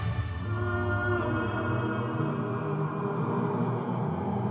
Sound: melodic humming

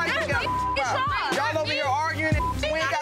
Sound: beep

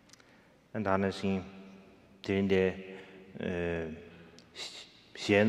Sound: speaking in foreign language

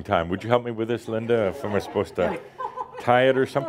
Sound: more chuckles

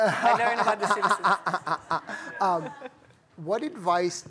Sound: laughter

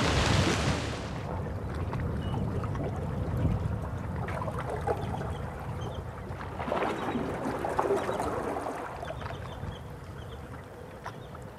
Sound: waves and seabirds calling

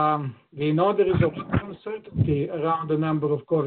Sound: audio distorts

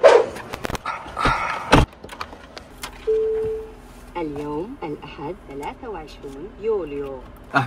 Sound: car engine starts

